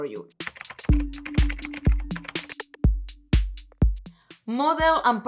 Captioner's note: keyboad clicking